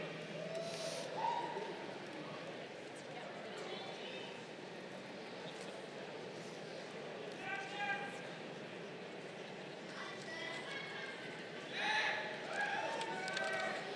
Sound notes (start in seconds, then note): 7.9 audience members shouting